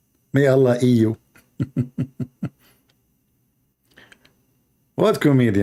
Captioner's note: Ketawa